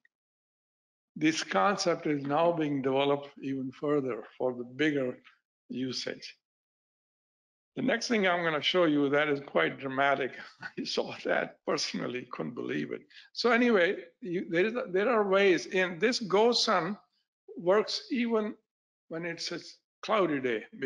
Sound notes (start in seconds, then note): 10.4 laughing